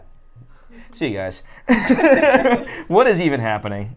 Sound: laughs

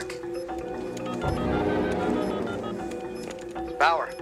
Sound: dialling

